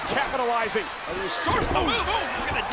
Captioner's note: body thudding